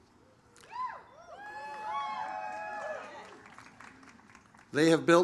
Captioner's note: audience cheers